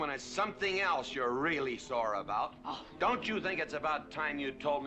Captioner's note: huffing